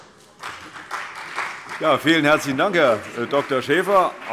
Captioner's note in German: Beifall CDU und BÜNDNIS 90/DIE GRÜNEN